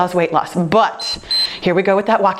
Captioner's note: timer beeps